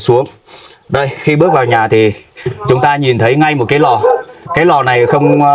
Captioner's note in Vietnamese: khịt mũi